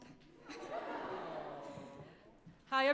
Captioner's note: crowd talking